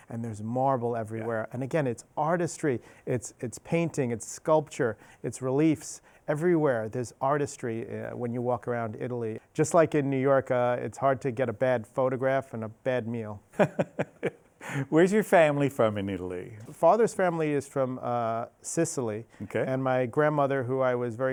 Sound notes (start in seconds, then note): 13.6 laughs